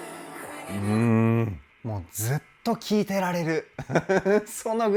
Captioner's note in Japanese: 笑い